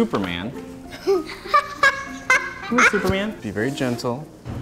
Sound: children giggling

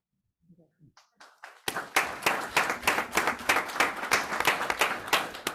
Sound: group applauds

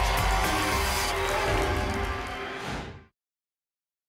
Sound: whoosh

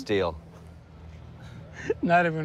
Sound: laughs

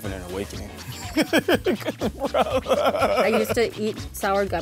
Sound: laughter

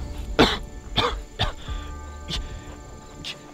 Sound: Lewis coughs

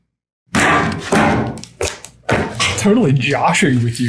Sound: clasps snapping

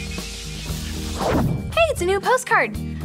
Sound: screen whooshes

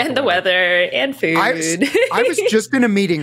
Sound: laughs

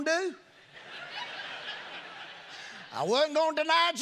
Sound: congregation laughing

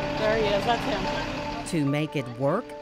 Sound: voiceover

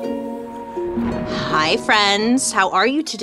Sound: thunder rumbling

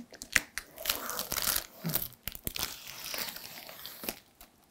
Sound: plastic peeling

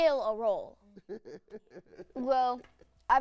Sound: laughs

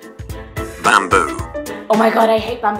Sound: computer Voice

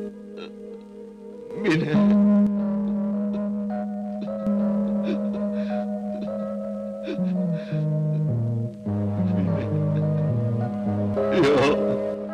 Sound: crying sound is heard

